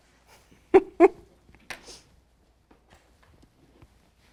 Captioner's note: laughs